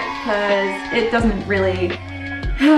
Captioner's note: kids booing